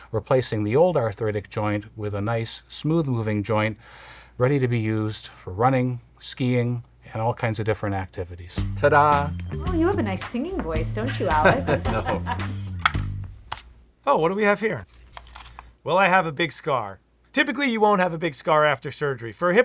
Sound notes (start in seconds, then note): 11.0 laughing